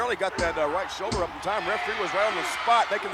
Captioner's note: referee smacking mat